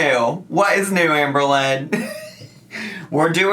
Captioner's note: laughs